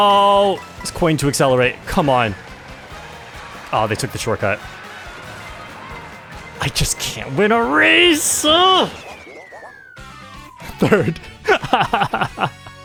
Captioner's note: laugh